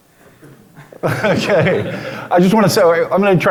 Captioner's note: laughing